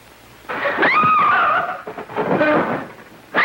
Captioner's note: screaming; thud